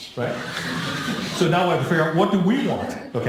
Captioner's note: laughing